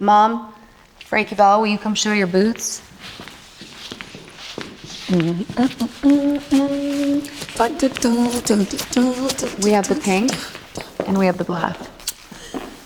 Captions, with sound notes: - Mom? Frankie Belle, will you come show your boots? [Mom humming] We have the pink and we have the black.